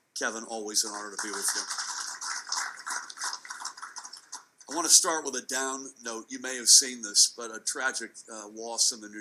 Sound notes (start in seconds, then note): 0.9 audience clapping